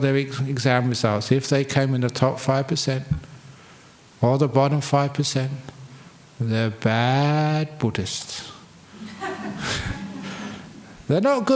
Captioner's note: laughs